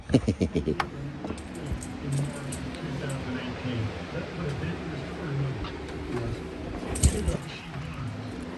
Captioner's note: laughs; door unlocks, opens and then closes